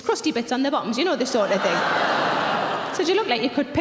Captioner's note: audience groaning